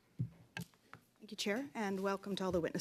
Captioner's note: speaking French